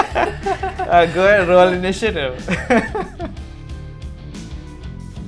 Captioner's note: laughter